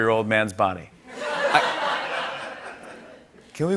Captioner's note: laughter